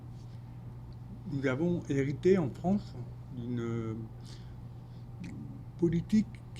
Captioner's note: speaking French